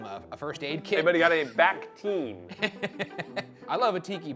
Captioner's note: laughs